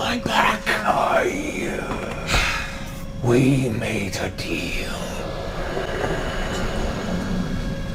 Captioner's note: gasping, breathy voice